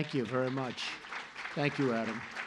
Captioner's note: applause